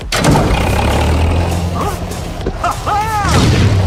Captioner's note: engine starts